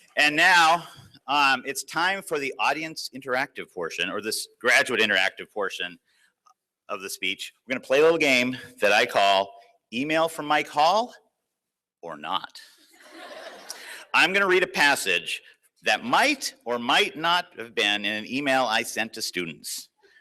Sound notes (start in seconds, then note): 13.0 laughter